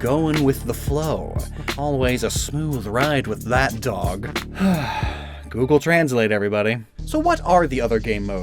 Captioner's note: sigh